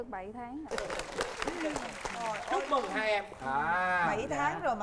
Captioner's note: applause